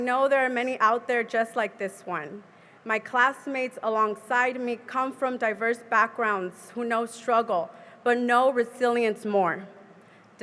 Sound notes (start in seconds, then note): none